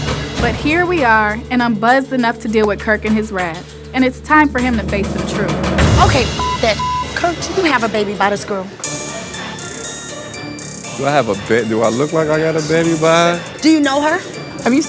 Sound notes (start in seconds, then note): 6.0 beep; 9.1 suspenseful music